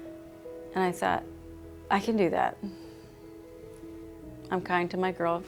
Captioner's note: sighs